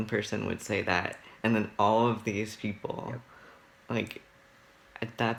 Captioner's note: none